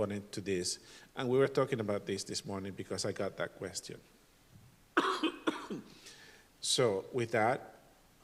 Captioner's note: cough and clears throat